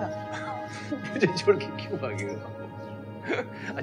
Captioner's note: Laughs